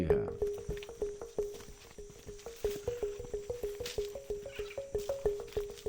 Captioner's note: insects chirping; gentle music continues